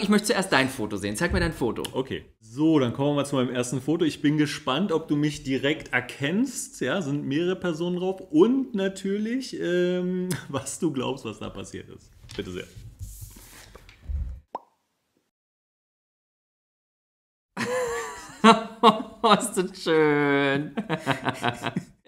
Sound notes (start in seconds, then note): 17.4 laughs